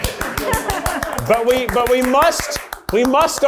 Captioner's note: hand claps